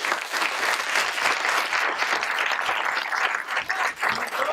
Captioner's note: audience applauding